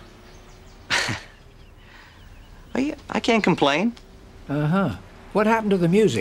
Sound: chuckles

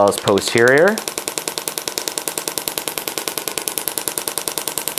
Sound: machine tapping

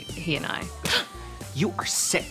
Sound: fist thumping

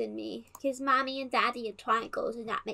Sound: in kiddy voice

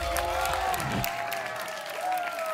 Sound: applause and cheering; whoosh; applause and cheering

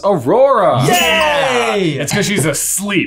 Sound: both cheering

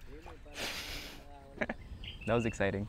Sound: giggles

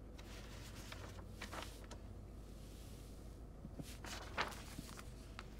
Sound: paper rustles

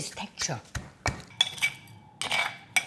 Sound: pestle thudding; spoon clanging

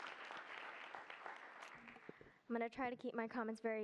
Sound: applause

